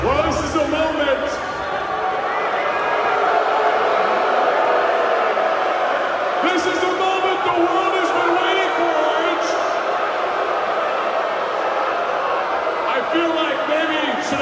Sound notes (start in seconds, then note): 2.9 crowd boos